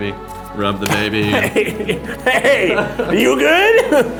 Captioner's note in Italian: minacciosamente